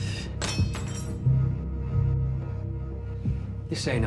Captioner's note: knife clatters